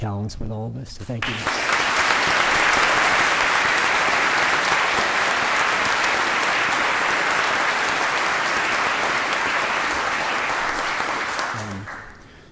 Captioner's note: applause